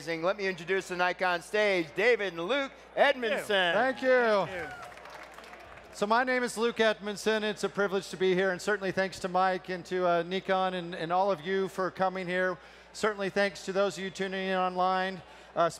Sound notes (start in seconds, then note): 4.4 clapping